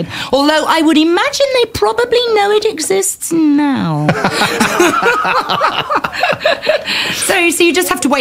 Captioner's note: laughter